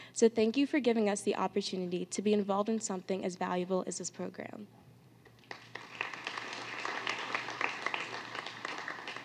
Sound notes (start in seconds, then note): 5.4 applause